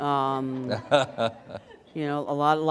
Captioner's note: laughter